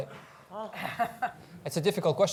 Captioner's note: laughs